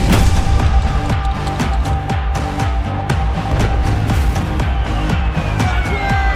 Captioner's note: clap